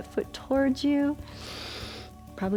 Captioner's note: inhales